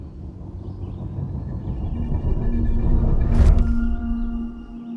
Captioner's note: flutter in distance